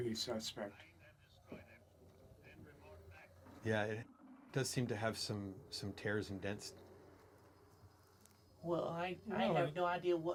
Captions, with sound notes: Find and destroy them, then report back. [static]